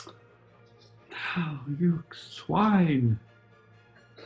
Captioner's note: sighs